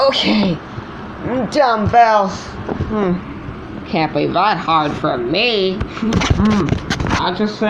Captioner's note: groaning